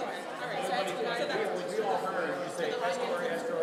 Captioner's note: people conversing loudly